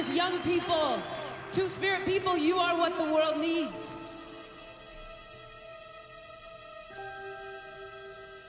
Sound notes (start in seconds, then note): 0.0 cheers and Applause